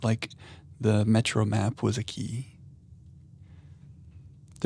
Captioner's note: none